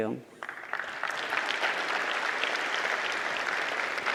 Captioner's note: audience clapping